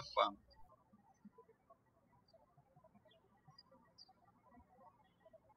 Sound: birds chirping

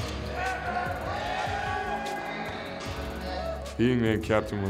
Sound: players yelling

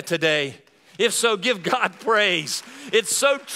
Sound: applause

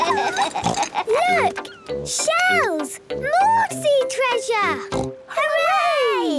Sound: laughs; snort

